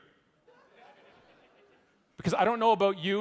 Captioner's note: audience laughing